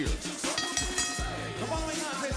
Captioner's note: bell ringing